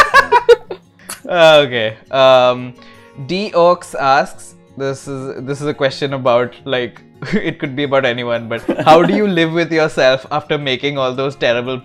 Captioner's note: laughter; laughter